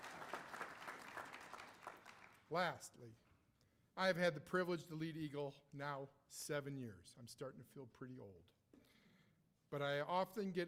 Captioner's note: applause